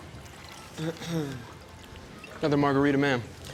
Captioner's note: Angela clears throat